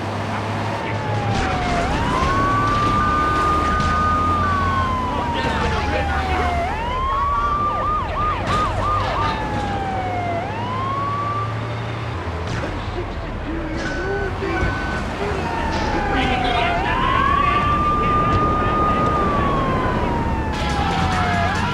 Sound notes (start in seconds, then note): 0.0 car engine roaring; 0.3 screaming; 6.4 tires screeching